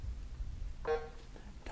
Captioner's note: bell buzzes